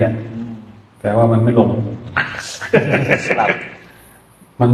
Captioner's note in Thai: เสียงหัวเราะ